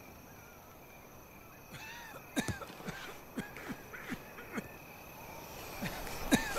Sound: coughing

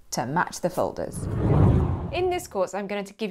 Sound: air swooshing

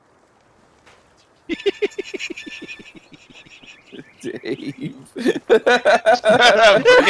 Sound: laughter

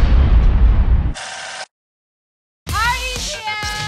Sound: tape reeling

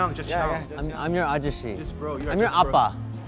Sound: speaking Korean

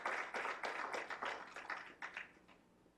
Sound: clapping

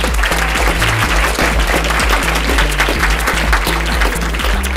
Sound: everyone clapping

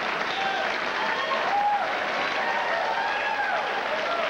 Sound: applause

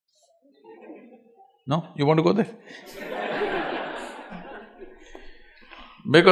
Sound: laughter

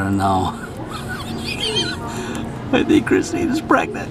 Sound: chuckles

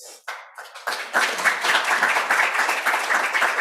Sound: applause

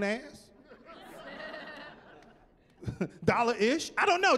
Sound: chuckling

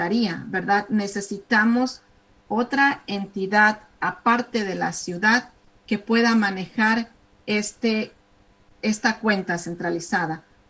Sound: speaking spanish

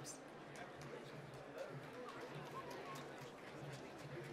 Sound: applause

